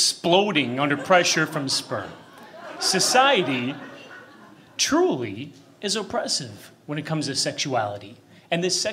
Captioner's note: laughter